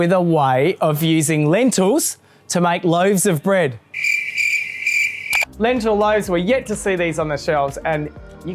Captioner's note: crickets